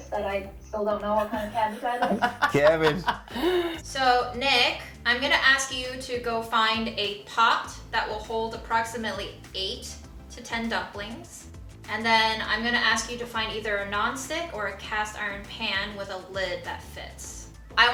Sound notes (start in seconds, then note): 1.2 laughs